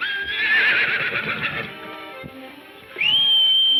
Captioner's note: horse whinnying